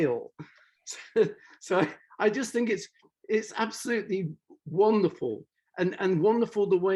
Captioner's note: laughs